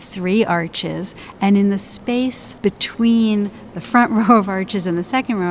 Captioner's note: chuckles